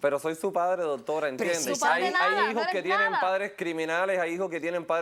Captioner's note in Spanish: Hablan al unísono